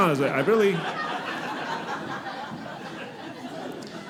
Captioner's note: audience laughing